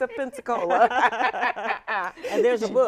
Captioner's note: all laughing